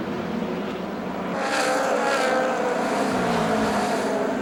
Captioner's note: cars whine past